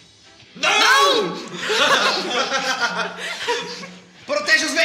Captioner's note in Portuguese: Risos